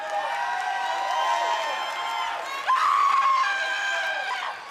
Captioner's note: cheers and applause